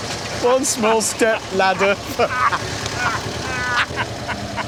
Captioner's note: they laugh